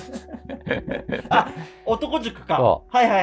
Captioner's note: laughing